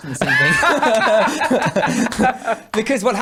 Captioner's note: laughing